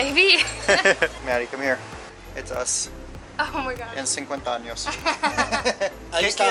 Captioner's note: laughter; laughter